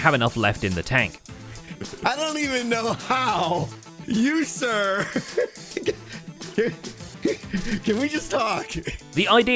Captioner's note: laughs